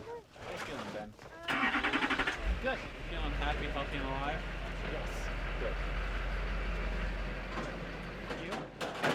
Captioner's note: truck engine revs, small talk; truck clatters away